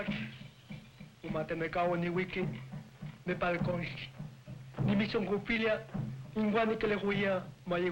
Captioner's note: tribal priest speaking in native language